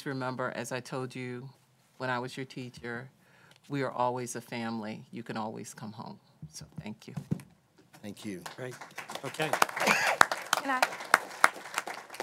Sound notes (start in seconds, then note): 8.0 applause